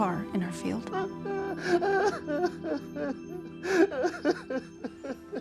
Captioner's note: Wags sobbing loudly